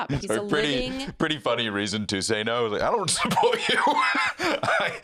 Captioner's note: laughs